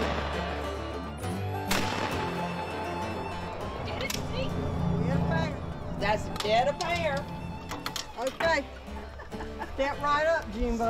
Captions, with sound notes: (gunshots) (indistinct conversation) - That's dead up there. - Okay. Step right up Jean.